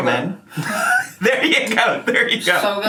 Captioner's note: laughing